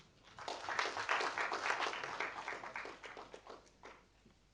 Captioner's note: audience applauding